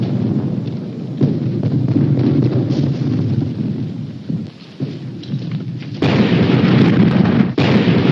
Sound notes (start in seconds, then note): 3.5 artillery firing